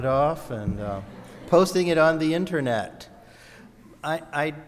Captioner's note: audience laughs